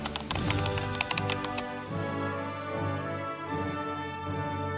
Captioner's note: keyboard clicking